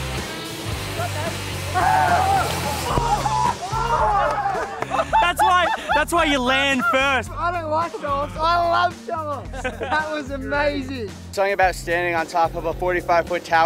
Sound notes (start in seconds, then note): 1.8 shouting